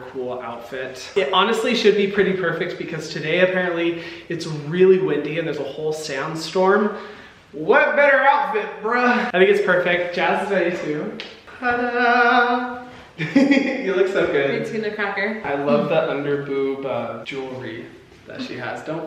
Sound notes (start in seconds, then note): 13.2 Hyram giggling